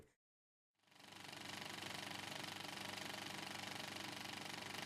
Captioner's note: film reel spins